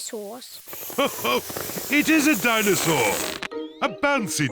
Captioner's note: laughs